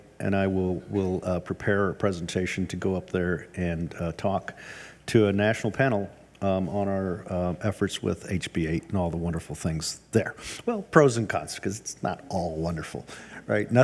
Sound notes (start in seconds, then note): none